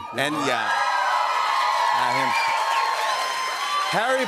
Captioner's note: cheers and applause